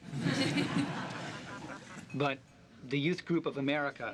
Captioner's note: genteel laughter